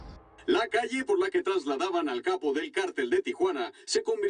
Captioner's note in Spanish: Voz en la TV